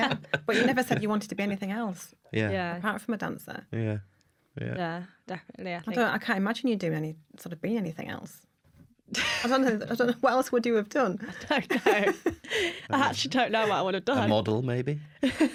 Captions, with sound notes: [LAUGHTER] But you never said you wanted to be anything else apart from a dancer. Yeah. Yeah, definitely. I can’t imagine you doing or being anything else. I don’t know, what else would you have done? [LAUGHTER] I don’t know, I actually don’t know what I would’ve done. A model, maybe?